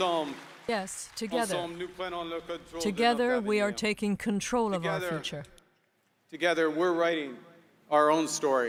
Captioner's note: applause